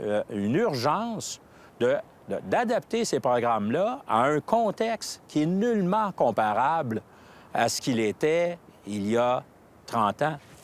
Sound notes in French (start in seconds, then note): none